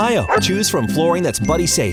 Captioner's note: dog barking